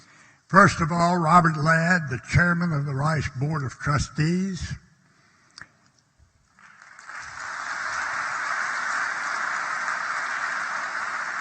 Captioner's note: applause